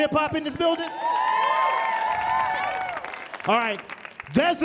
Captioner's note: audience cheering